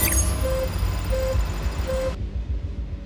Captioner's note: warning sound